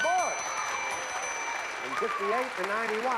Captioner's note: applause